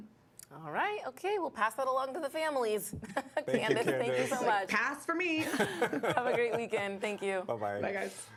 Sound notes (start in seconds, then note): 5.4 laughter